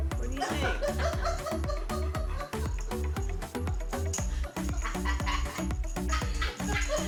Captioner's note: fun music; people laughing